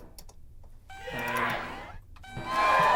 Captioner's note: person shouting; computer chiming; crowd cheering